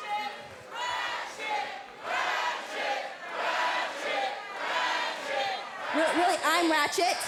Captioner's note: fans chanting